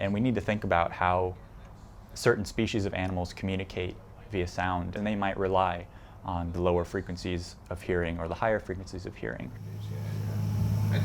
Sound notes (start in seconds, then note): none